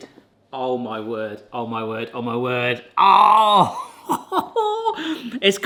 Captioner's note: grunts; chuckleS